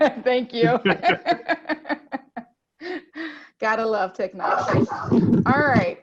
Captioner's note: laughter